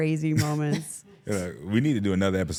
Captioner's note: Trick and participant chuckling